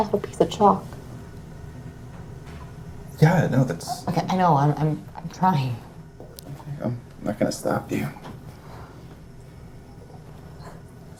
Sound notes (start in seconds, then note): none